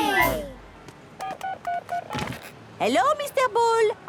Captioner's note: dial tones beeping